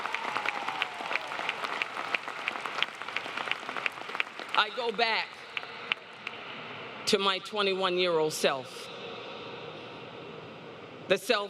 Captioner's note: applause